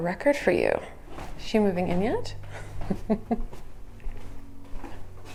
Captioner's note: chuckles